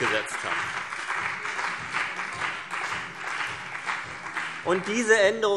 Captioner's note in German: Beifall BÜNDNIS 90/DIE GRÜNEN und vereinzelt CDU